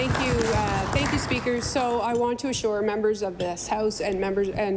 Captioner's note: applause